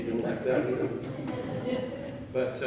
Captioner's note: chuckling